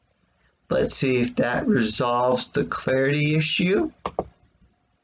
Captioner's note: click of trackpad